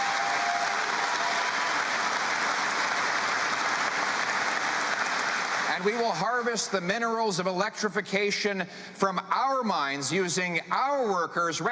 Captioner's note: cheering and Applause